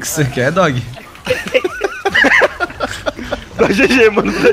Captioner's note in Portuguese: risos